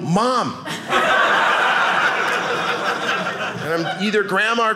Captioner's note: audience laughing